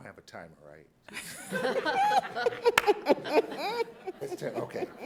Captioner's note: light laughter